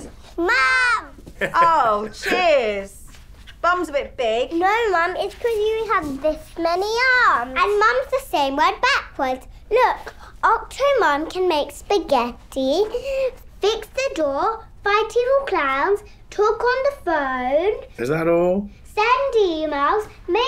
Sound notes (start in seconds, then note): 1.3 laughter